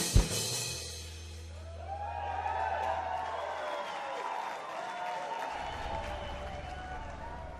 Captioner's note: cheers, whistles, & applause